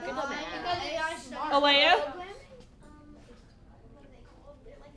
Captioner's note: children chattering